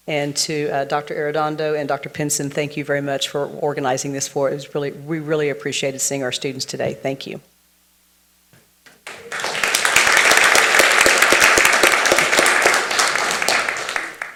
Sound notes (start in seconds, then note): 8.9 everyone applauds